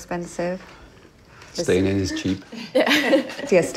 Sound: laughs

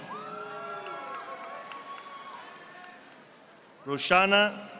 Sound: audience applauding

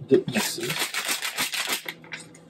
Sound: shaking packet

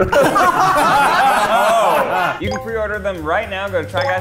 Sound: laughing

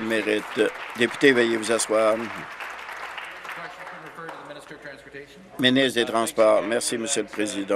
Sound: applause

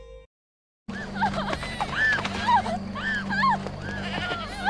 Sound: sobbing

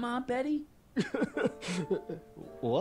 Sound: crying

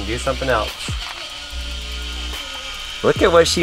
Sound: robot buzzing

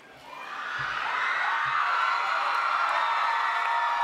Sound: cheering

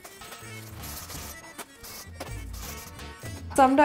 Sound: upbeat music; sprays

